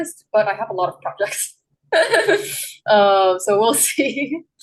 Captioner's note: laughs